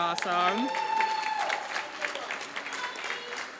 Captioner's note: applause